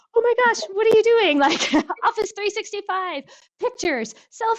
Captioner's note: laughs